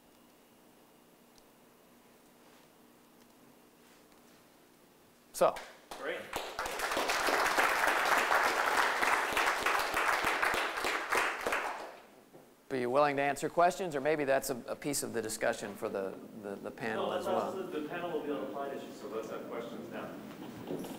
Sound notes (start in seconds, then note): 5.9 applause